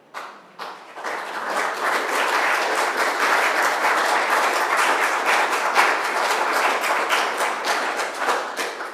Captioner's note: applause